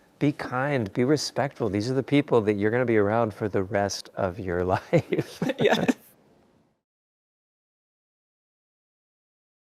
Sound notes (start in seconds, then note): 4.9 laughs